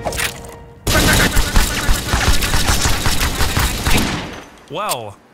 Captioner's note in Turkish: silah sesi